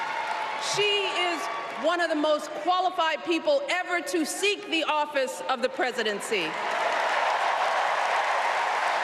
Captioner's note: applause